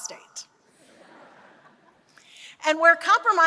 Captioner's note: laughter